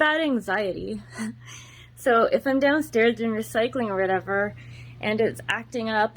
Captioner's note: giggles